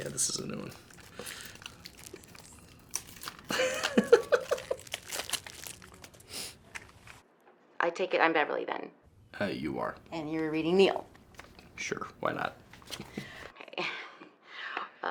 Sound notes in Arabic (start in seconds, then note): 3.4 ناثان يضحك